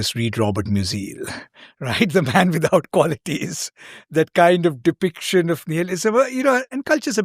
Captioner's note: chuckles